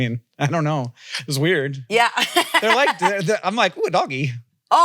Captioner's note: laughs